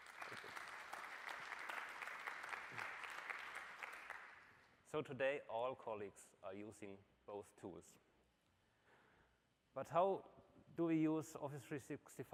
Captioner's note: applause